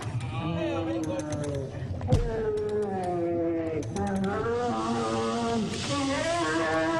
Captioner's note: bear groaning in pain